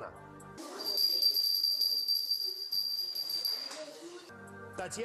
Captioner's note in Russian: звук колокольчика